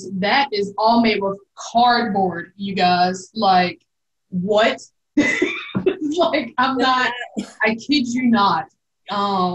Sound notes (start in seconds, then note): 5.2 belly laughing